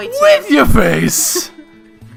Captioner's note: suppressed laughter